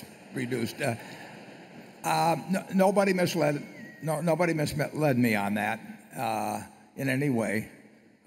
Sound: laughter

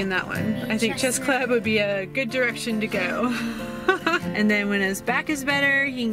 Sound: laughs

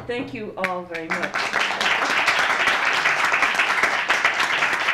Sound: applause

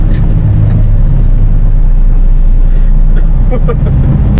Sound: laughter

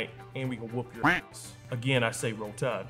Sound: duck quacks

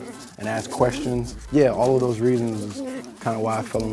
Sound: puppies snarling

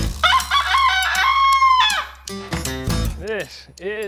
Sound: rooster crowing

